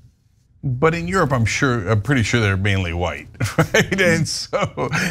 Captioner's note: laugh